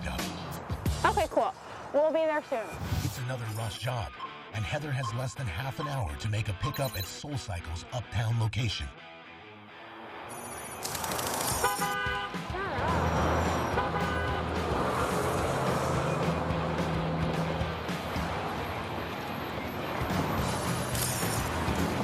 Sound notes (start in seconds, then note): 10.6 car horn honks; 12.8 honk